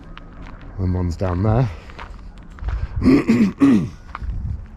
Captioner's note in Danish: rømmer halsen